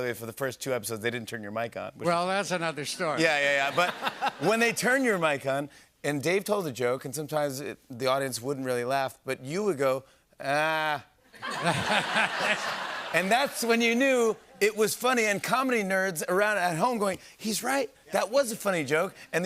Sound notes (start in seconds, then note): 11.3 laughter